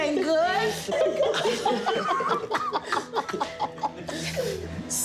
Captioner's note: laughter